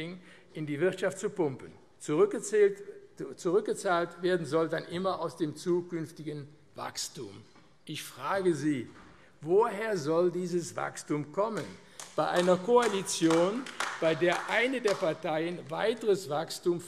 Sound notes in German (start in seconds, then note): 11.9 Beifall AfD